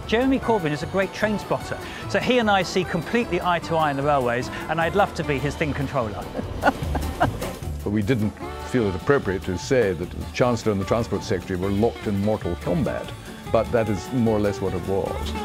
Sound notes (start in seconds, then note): 6.2 laughter